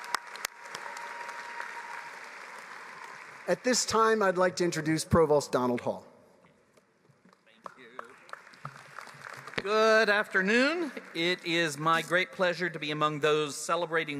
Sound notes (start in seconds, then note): 0.0 applause; 12.6 applause